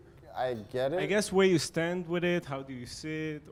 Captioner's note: voiceover